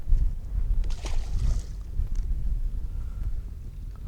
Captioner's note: water splashes